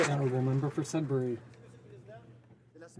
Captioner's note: some Applause